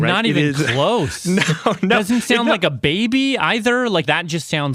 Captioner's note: laughs